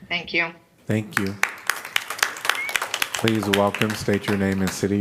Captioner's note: applause